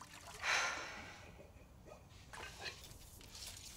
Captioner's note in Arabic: تنهد